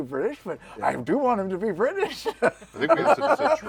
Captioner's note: laughs